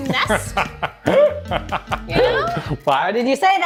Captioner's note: laughs